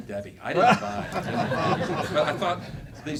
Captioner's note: laughing